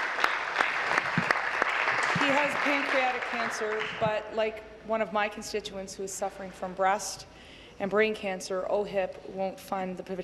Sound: applause

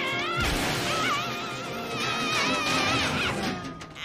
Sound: screams in slinky

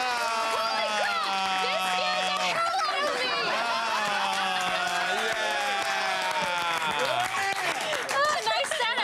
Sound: applause

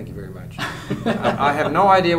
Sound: laughter

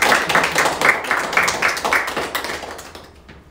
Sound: applause

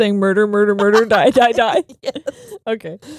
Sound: laughing

